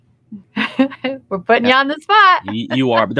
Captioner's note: laughs